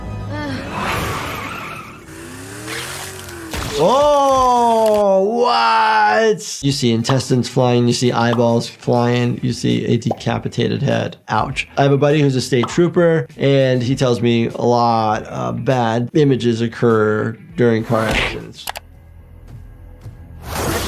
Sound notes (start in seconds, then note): 0.7 tires squealing; 0.7 air whooshing; 2.9 body parts squelching; 18.6 mouse clicking; 20.4 door tearing